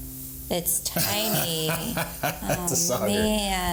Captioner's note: laughs